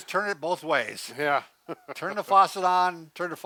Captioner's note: chuckles